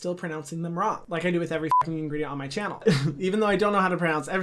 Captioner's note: beep